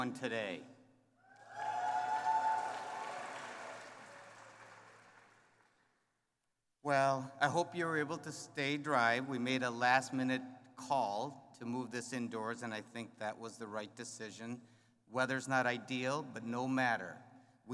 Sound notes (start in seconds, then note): 1.3 cheering